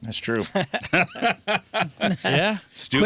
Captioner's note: laughter